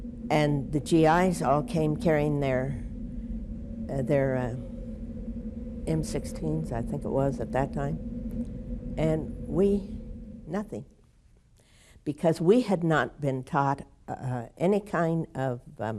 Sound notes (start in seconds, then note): 4.2 wind howling